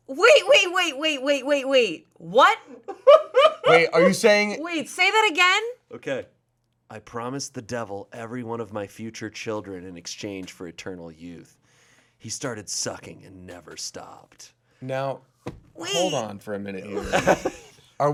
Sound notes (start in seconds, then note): 2.8 laughing